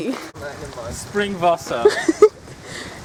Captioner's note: in German